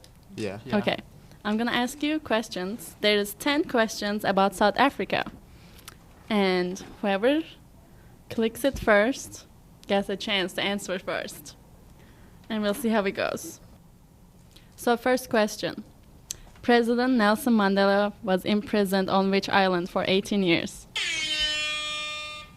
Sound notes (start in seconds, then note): 21.0 horn Sound